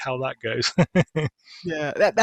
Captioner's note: laughs